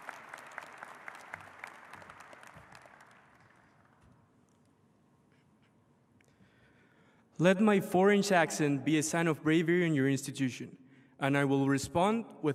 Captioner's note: applause